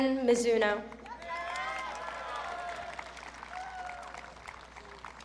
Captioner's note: audience cheering